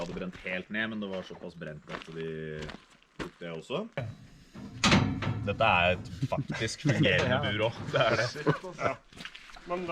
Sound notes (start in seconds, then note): 7.9 unison agreement